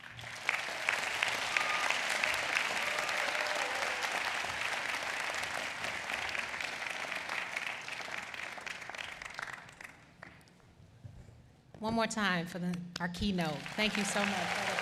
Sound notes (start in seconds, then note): 2.2 applause